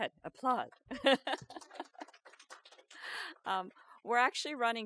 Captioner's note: audience applauds